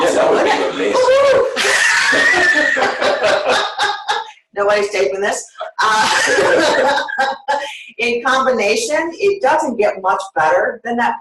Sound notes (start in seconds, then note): 0.0 laughter; 5.8 laughter